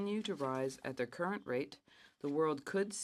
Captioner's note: speaking French